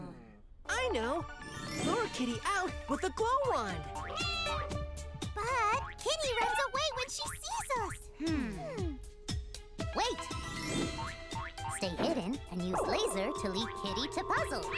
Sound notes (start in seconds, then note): 4.2 meowing